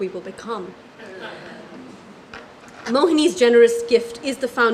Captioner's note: laugh